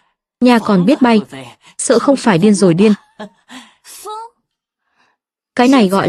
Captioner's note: tiếng cười